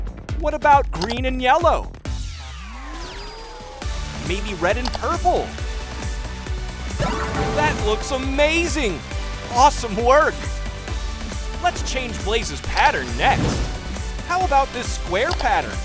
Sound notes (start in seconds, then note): none